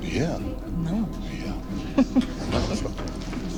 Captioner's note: giggles